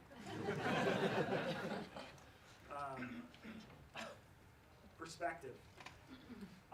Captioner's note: laughs